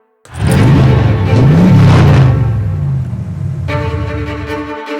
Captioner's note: car engine revving; upbeat music